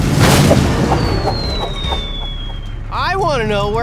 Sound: swishing

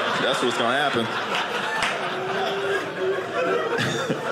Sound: audience laughing

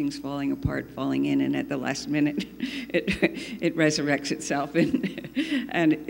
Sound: laughs

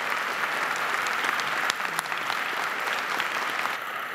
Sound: applause

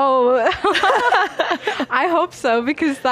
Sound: both laughing

